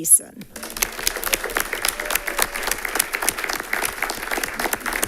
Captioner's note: attendants applauding